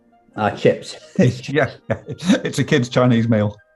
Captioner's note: laughing